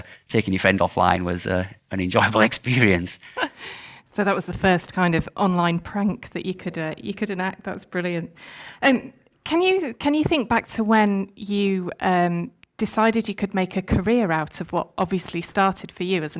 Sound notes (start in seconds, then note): 2.4 chuckles